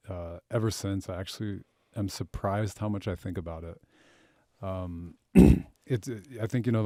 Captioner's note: clears throat